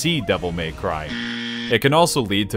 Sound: incorrect buzzer

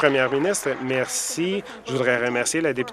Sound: applause

